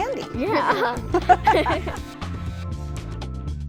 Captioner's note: laughter